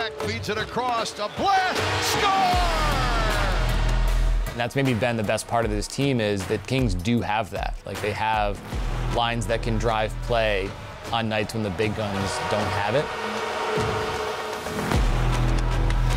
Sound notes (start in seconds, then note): 3.5 crowd cheering; 3.5 upbeat music; 13.5 upbeat music